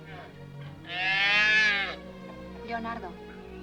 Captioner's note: bull calf moos